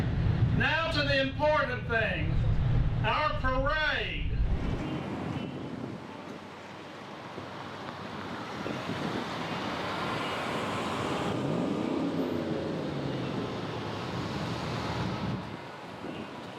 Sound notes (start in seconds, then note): 9.0 cars coasting; 12.3 engines revving